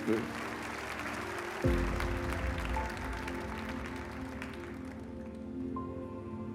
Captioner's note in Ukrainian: оплески